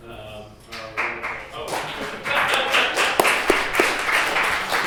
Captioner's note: applause